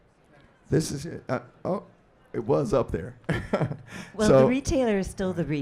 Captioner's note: laughs